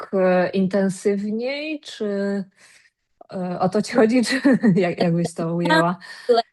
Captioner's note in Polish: śmiech